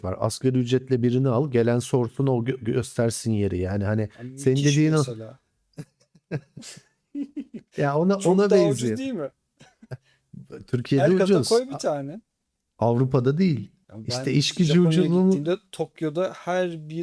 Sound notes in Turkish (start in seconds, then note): 7.0 kahkaha